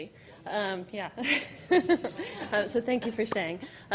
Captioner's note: laughing